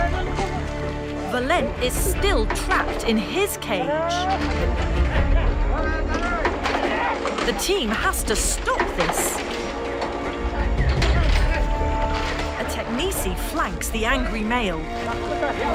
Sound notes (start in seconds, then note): 4.6 intense music; 4.6 metal cage clunking; 8.5 cage clunking